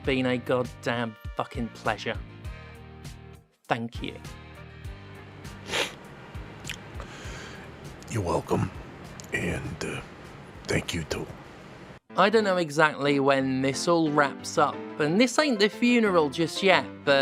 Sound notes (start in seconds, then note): 5.5 sniffs